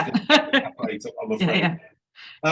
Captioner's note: laughing